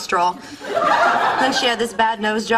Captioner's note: audience laughter